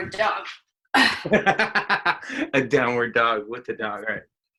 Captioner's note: laughs